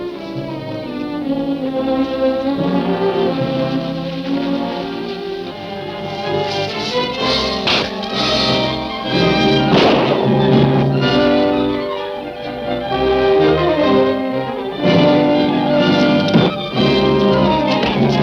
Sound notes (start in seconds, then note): 0.3 dramatic music continues; 9.6 gun shooting; 11.4 dramatic music continues